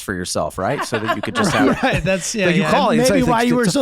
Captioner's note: laughing